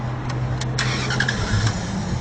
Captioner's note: El carro traa de arrancar